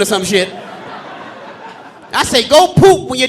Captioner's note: audience laughing